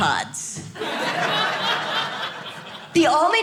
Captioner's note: audience laughing